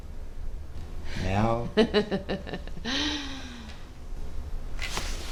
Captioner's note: Claire laughing